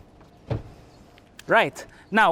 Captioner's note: thud